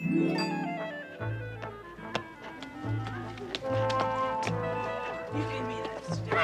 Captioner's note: children playing